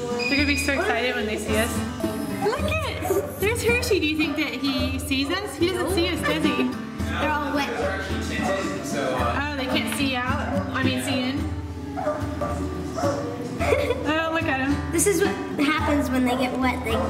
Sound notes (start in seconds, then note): 11.8 dogs barking; 13.5 laughs